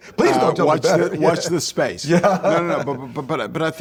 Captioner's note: Tom laughs